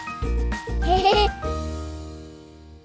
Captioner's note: laughter